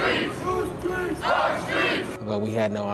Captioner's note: crowd